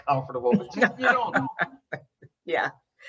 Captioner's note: laughing loudly